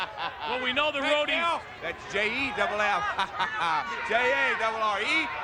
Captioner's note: chuckles; chuckles